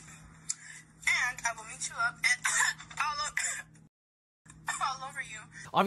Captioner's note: coughs